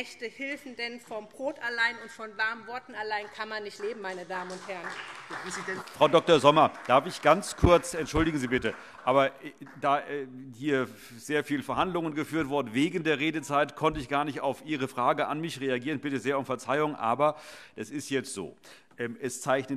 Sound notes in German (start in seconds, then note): 4.9 Beifall SPD